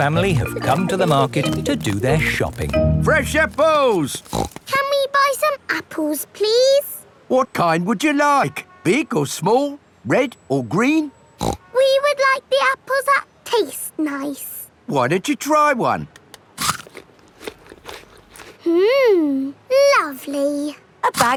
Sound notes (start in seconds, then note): 4.1 snorts; 11.4 snorts; 16.5 crunches